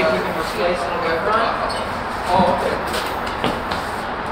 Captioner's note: background chatter